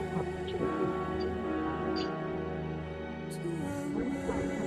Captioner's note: static